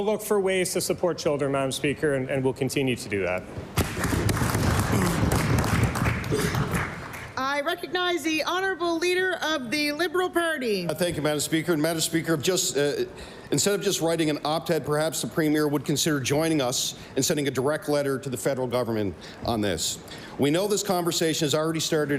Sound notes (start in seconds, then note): 8.1 applause